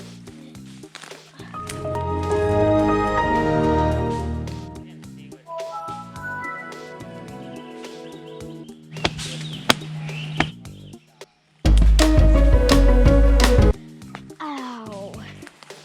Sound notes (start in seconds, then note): 1.6 Windows Xp Startup Sound; 5.5 Windows 7 Startup Sound